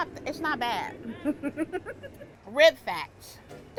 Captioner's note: laughs